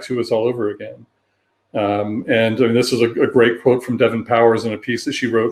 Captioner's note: erm